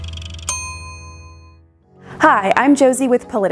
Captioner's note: bell dings